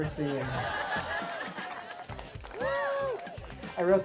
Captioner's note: laughter